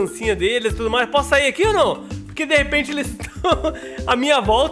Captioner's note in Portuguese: risos